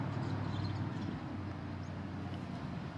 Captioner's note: birds chirping